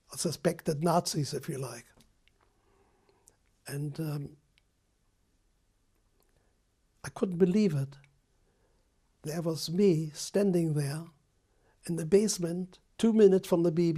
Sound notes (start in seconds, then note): 4.1 pauses for 3 seconds